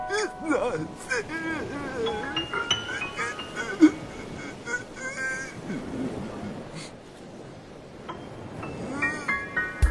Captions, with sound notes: IT'S NOT FAIR... [ Sobbing Continues ] HUH?